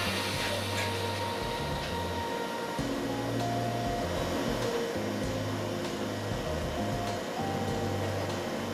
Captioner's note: torch noise